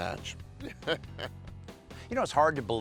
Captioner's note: laughs